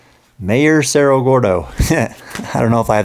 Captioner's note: laughing